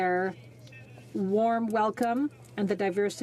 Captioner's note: speaking French